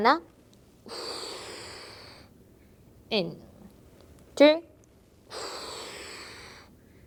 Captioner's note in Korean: 한숨; 콧방귀; 한숨